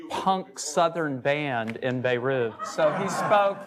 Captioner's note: laughing